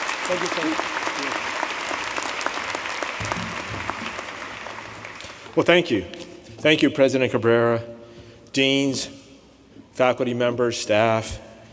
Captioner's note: applause